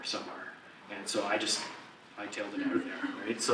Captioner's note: audience laugh